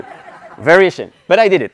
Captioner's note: audience laughing